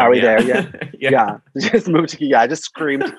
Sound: laughs

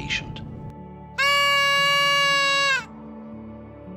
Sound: birthday whistle

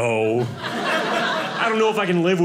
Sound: audience laughing

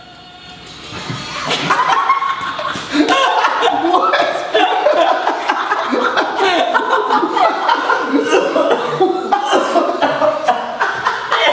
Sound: laughs

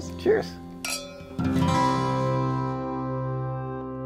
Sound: glass clink

